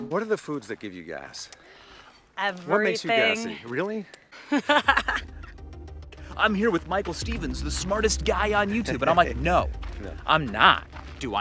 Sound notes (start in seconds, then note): 4.4 laughing